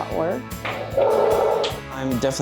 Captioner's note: dog barks